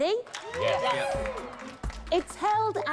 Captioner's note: cheers and applause